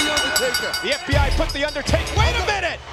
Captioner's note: bell rings